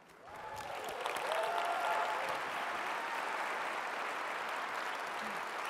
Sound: audience applauds and cheers

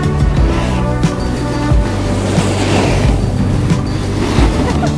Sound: gentle music; snowboard scraping; laughter

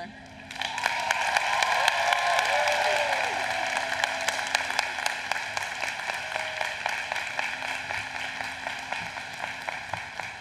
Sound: applause

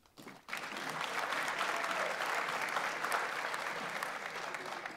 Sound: audience applauds

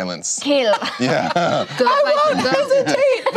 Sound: laughing

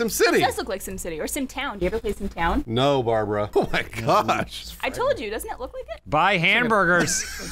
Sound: haha

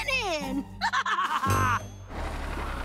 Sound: laughing

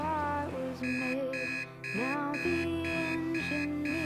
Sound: alarm blaring

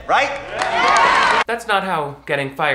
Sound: students cheering and clapping

